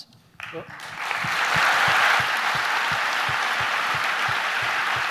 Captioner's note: audience applause